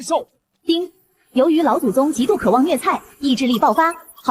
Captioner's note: ding!